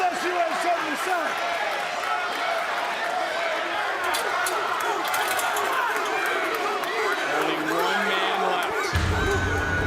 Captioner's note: crowd cheers